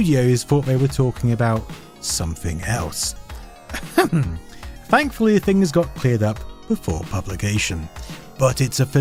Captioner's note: ahem